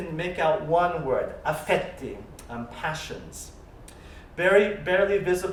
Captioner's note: italian